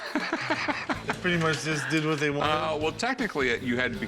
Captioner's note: laughter